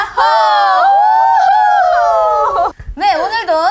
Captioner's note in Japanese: 歓声